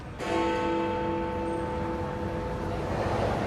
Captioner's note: big ben chimes